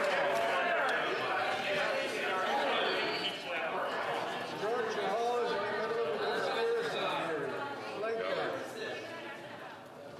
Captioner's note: some Applause